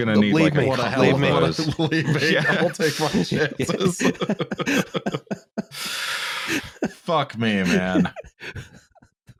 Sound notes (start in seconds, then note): 1.9 laughing; 3.9 laughter